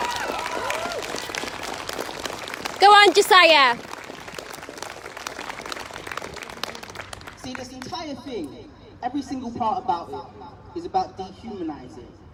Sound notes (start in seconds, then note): 0.0 applause